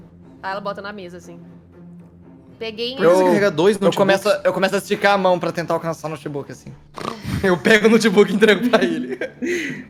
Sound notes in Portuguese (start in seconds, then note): 8.1 risos